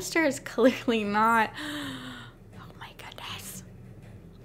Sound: gasp

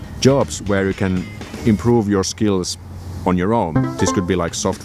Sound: ding

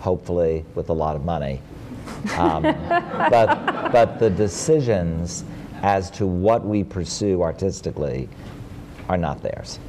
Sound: laughter

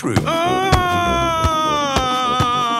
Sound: shouting

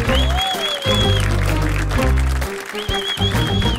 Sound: applause

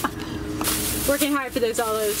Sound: laughing; bag rustling

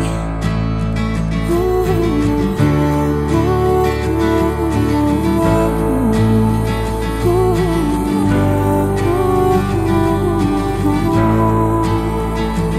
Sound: vocalizing

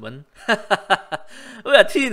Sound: laugh nervously

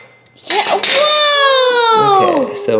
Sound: child cheering

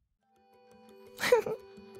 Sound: sobs

